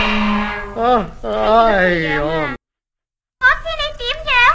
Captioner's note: yawning